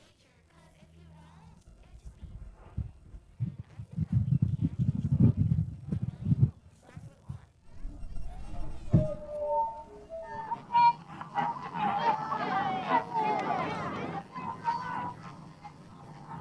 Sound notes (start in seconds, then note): 8.3 yelling